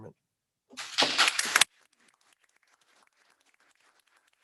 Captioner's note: all applauding